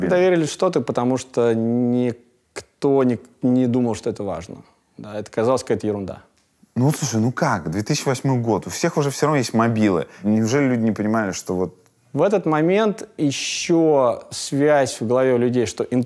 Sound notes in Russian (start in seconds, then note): none